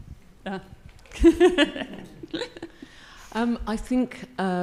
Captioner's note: laughs